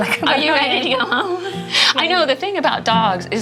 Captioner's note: laughs